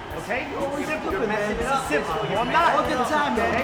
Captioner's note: group chattering